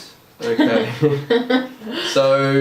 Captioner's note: laughs